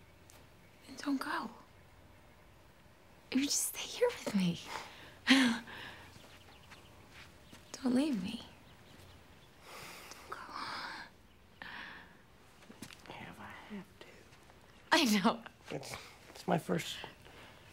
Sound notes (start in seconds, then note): 5.2 laughing